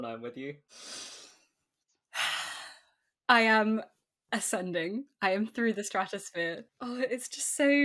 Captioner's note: sighs